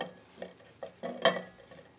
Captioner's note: vessels clinking